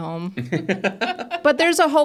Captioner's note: participants laughing